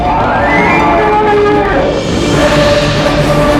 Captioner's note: roaring